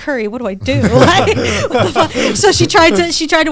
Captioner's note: all laughing